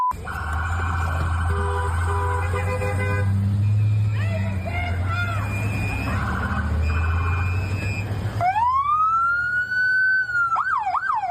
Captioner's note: sirens